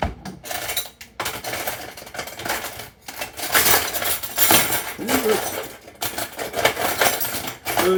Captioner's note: silverware clattering